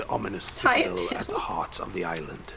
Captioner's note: laughs